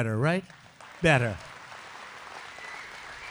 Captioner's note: applause